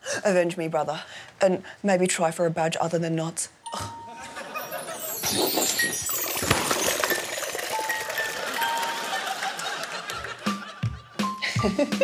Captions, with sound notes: Avenge me, brother, and maybe try for a badge other than knots. (LIQUID GUSHES)